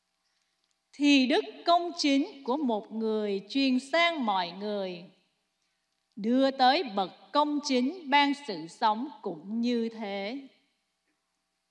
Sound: speaking non-english

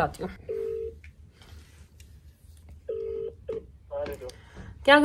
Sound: phone ringing

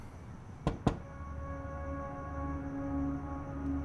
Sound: knock on window

